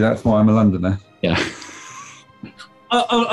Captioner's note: chuckling